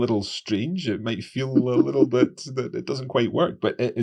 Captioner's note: laughing